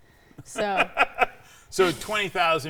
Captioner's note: laughing